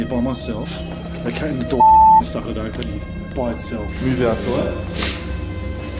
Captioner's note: beeping